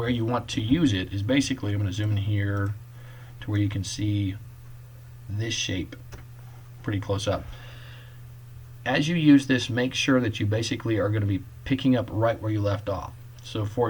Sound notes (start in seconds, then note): 6.8 click